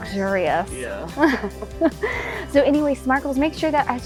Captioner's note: laughs